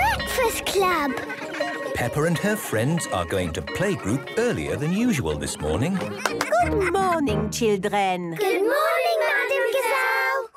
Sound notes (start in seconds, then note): 0.8 children giggling; 6.2 claps